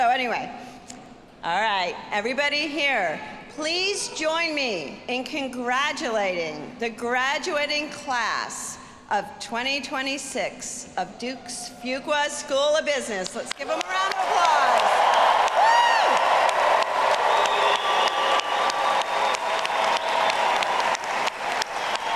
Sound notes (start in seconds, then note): 14.8 audience applauding; 15.7 audience cheering